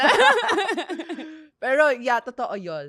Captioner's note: laughs